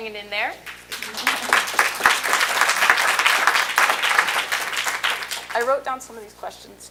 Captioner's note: applause